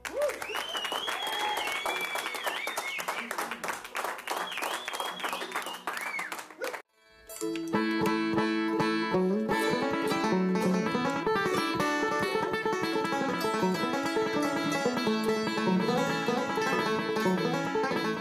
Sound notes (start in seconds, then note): 0.0 applause; 8.1 band Warms Up with Background Chatter